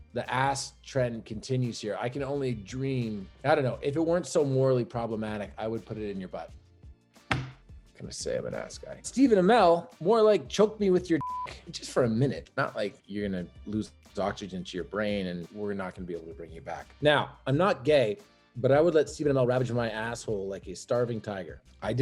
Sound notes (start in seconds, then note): 11.2 beep